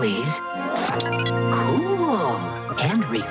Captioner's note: whoosh; beeps